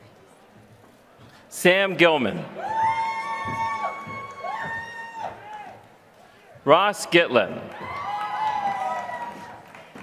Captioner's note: applause